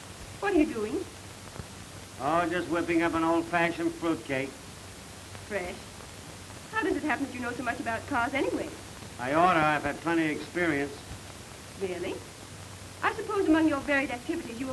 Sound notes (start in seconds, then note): none